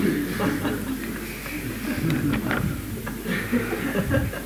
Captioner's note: laughter